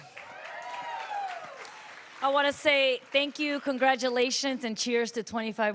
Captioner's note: applause